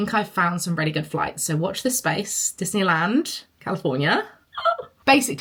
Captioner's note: squeals